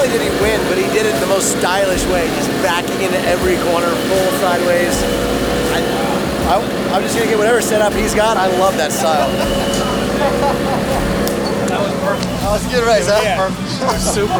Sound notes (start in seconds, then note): 10.6 hands clap